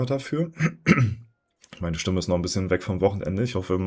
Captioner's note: clears throat